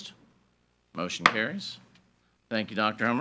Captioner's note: gavel banging